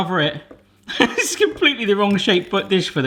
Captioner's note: he laughs